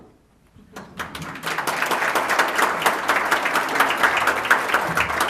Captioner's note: audience applauds